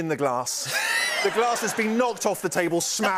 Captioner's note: laughter